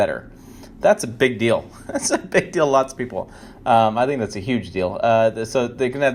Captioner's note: chuckle